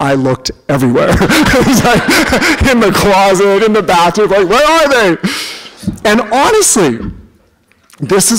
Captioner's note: laughter